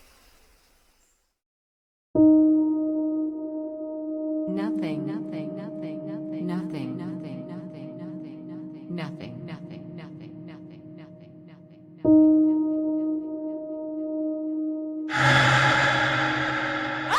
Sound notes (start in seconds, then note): 2.2 calm ambient music; 5.7 voice echoing; 15.1 rattle echoes